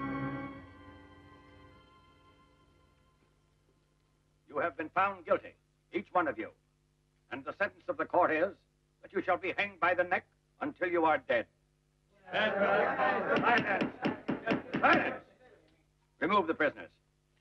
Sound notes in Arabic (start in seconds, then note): 12.3 الرجال يتحدثون مع بعضهم البعض; 13.3 ضربات المطرقة